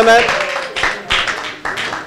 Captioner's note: applause